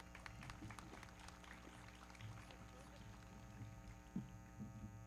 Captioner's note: everybody clapping